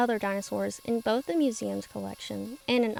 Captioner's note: machinery whirring